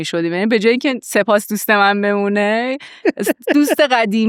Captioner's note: laughs